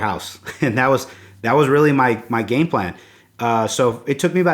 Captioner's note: chuckles